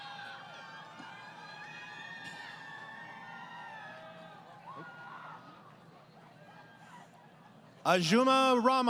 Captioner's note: crowd Cheering